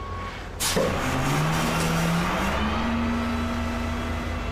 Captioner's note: truck rumbling